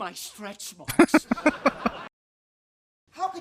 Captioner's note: chuckling